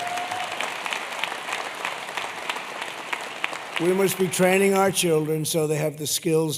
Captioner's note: applause